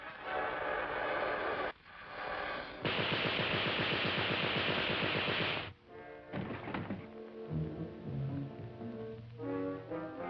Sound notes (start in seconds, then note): 2.8 machine gun popping; 6.2 body thuds; 7.5 pensive music